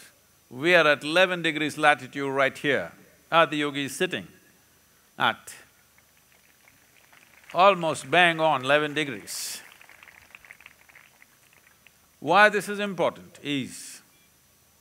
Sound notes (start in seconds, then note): 10.3 applause